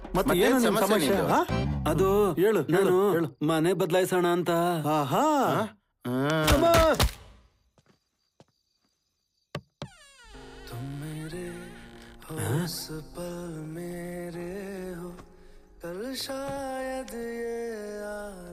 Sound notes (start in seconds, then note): 6.0 Shiva groans; 9.6 door creaks open